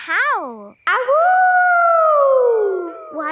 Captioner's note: howling